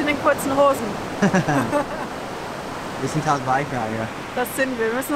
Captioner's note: laughs